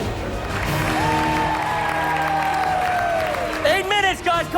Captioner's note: cheers and applause